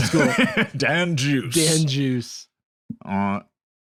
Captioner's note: laughs